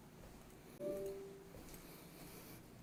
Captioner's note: Google Assistant noise